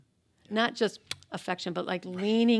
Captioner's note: kisses